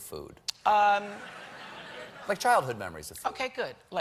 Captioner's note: laughter